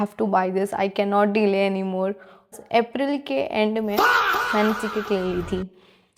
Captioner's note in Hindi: चीखने की आवाज़